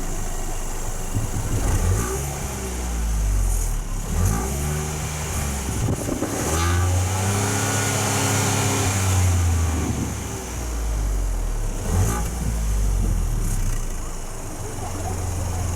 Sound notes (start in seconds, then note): 1.7 revving up car engine from outside